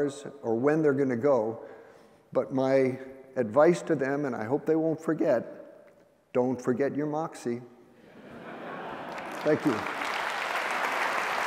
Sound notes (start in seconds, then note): 8.0 laughter; 8.9 applause